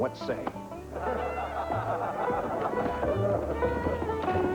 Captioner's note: laughter